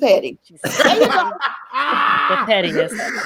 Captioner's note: laughing